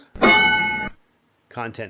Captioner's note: ding